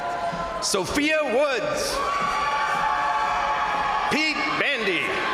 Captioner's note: crowd cheering